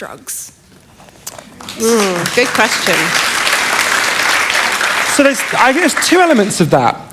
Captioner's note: applause